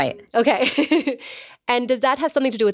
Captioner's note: laughing